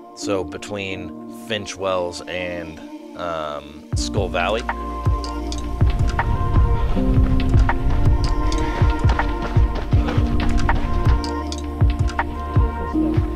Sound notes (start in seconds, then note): 6.5 panting